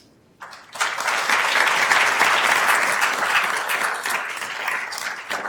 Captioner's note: attendees applauding